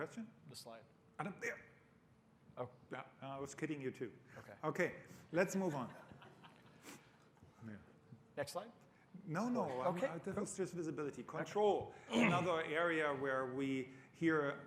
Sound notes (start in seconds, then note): 5.7 laughter